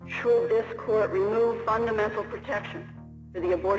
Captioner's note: soundbite of archived recording